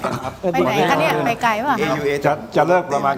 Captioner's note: laughter